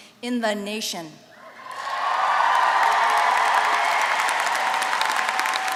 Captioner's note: applause